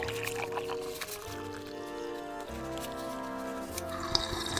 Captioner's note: tea pouring; slurping sound